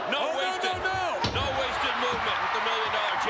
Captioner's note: spectators cheering